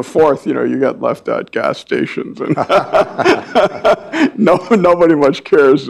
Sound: laughs

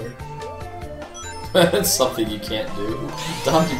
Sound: chuckling

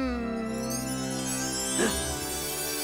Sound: gasping

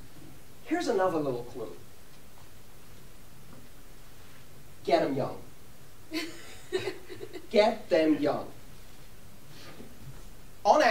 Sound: laughter

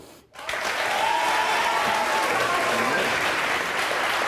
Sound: audience applauds

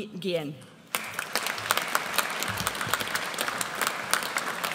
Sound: audience applauds

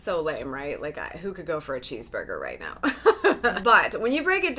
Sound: laughs

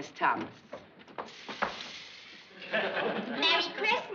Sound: hissing

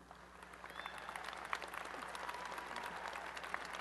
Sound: applause

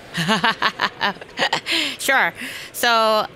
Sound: laughing

